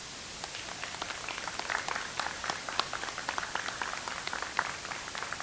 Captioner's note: audience applauds